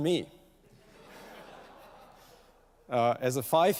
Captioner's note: laughter